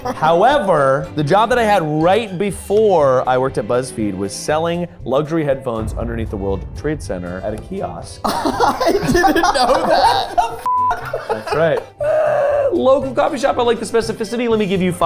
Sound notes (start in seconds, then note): 0.1 chuckles; 10.9 laughing